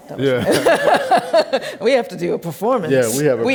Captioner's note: laughs